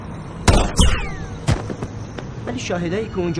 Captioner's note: gunshot